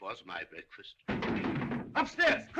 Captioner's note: ضجة في الطابق العلوي